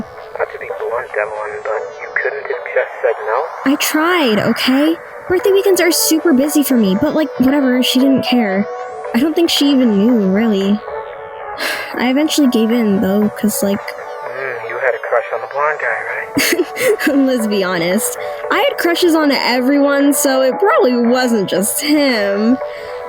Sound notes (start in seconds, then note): 11.6 sighs; 15.8 chuckles